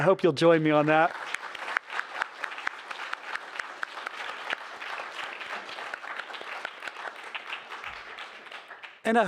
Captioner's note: applause